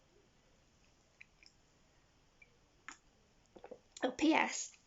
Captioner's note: sips tea